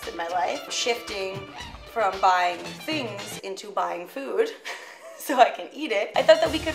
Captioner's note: laughs